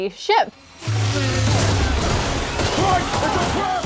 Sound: guns blaring

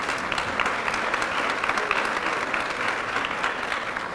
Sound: applause

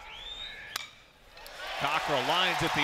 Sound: crowd noise; ball hitting bat

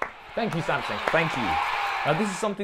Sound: audience cheering

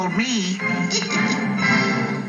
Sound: laughs

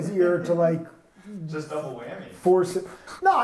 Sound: laughs

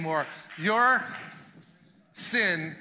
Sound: congregation clapping loudly

